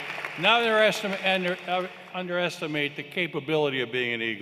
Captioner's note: applause